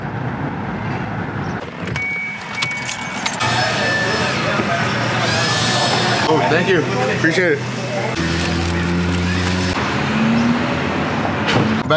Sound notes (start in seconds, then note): 1.7 car door signal beeping; 8.5 traffic humming